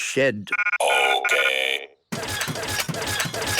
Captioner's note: rattling